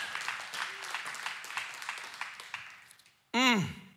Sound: congregation cheering and applauding

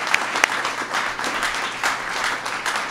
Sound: applause

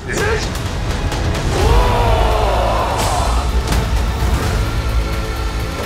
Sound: yelling

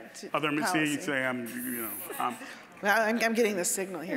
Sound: scattered chuckling

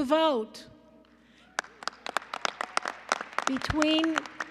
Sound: applause

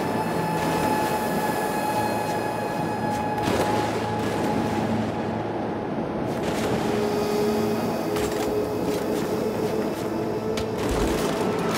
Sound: sirens

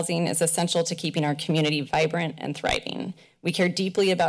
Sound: none

